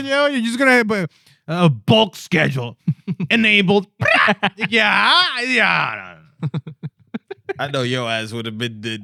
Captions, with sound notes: You're just going to have a bulk schedule. (Speaking Spanish) Yeah. Yeah. I know your ass would have been--